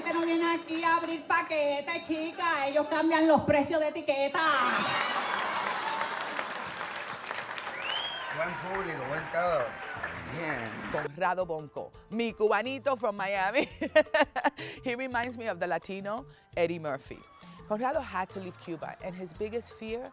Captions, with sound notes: (speaking Spanish) - Conrado Bonco mi Cubanito from Miami. He reminds me of the Latino Eddie Murphy. Conrado had to leave Cuba and his biggest fear